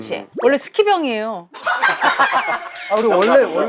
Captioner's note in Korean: 웃음